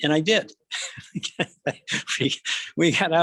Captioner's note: laughing